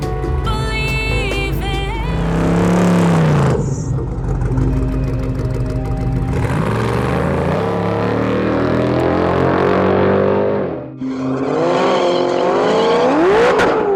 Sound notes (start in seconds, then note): 3.2 dramatic music; 3.2 engines revving